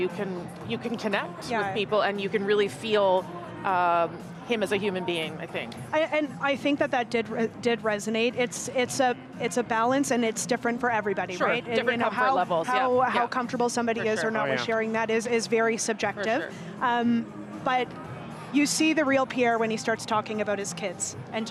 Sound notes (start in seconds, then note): none